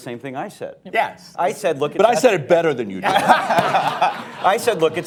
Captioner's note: laughter